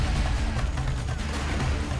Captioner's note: gunfire